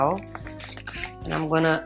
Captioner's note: water splashing